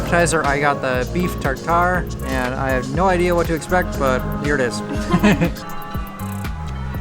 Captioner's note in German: Lachen